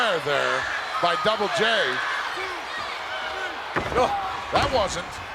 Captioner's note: applause